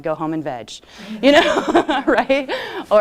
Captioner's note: laughter